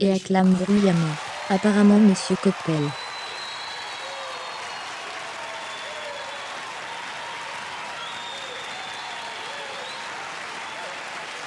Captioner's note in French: L'auditoire applaudit et acclame bruyamment